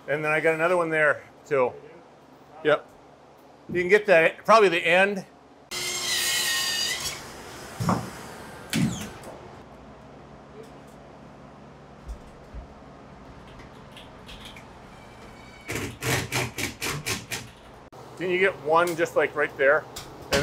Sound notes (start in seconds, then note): 5.7 saw whining